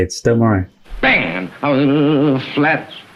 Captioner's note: humming